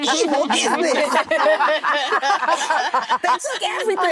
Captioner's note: actresses laughing